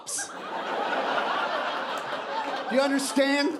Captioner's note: audience laughing